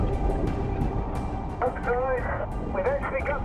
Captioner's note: speaking over radio